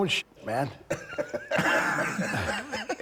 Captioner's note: Rick laughing; Bron laughing